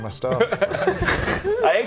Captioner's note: masterbatorial laughter